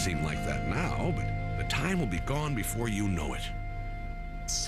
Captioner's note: none